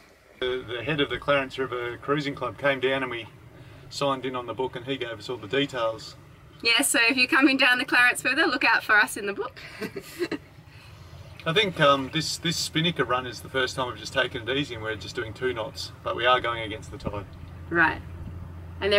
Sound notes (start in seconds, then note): 9.6 laughing